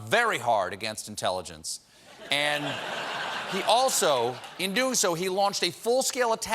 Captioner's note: laughter